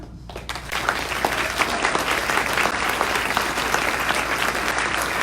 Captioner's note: audience applauds